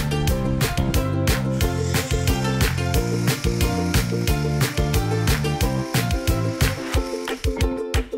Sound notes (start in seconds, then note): 0.1 chicken sizzling